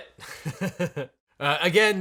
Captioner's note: he laughs